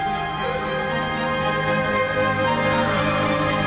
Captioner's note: none